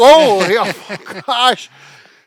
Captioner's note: laughing